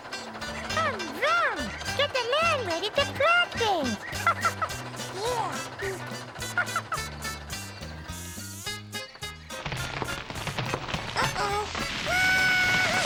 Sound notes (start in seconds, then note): 9.6 rumbling